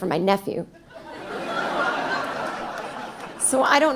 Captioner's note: audience laughing